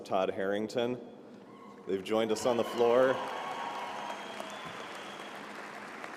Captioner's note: applause